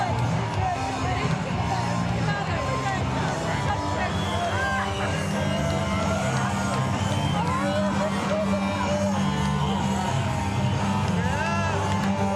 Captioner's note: crowd din